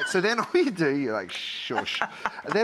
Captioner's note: Rachael Ray laughing